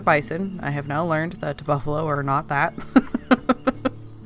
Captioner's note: laughs